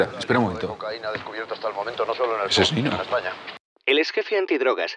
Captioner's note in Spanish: none